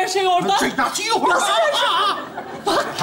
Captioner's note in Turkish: Karısını taklit eder